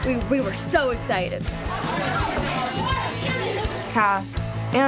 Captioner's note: shouting; indistinct chatter